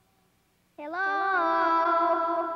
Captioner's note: voice echoing